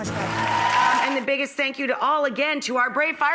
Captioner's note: applause